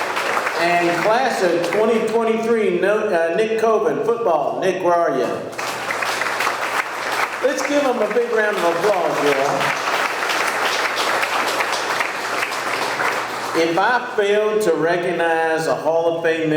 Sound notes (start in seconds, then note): 5.6 audience clapping; 9.6 audience clapping